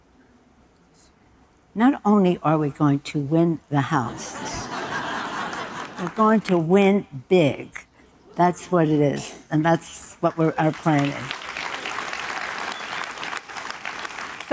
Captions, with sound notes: - Not only are we going to win the House. (audience laughing) We're going to win big. That's what it is, and that's what we're planning. (audience applauding)